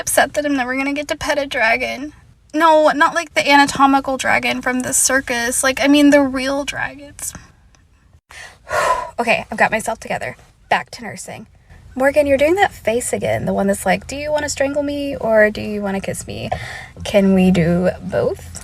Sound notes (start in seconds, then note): 8.3 deep breath